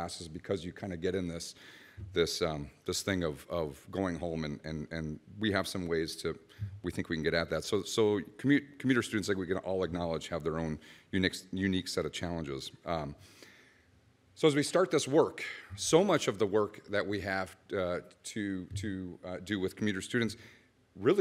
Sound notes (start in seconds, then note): none